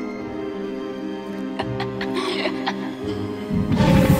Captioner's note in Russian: ~Ха-ха-ха!~